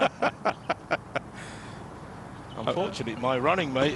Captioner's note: laughter